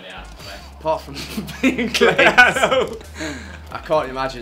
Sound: laughs

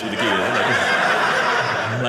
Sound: audience laughing

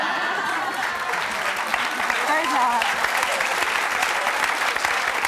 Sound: audience laughter and applause

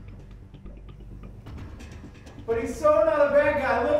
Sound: footsteps

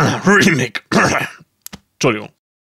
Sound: coughing

